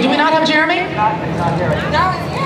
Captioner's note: voiceover